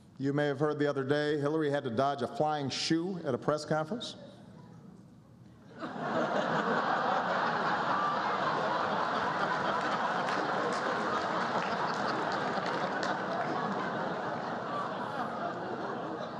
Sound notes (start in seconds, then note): 5.8 laughter and applause